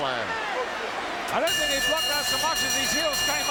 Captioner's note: bell ringing